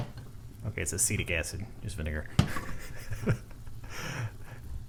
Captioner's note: laughs